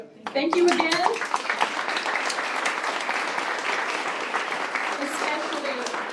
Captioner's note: applause